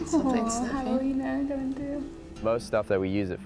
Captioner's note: indistinct chatter